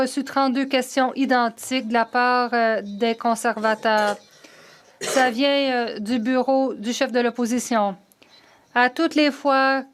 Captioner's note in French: voix de l'interprète